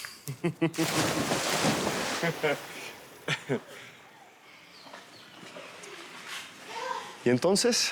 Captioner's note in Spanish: ruido al tirarse al agua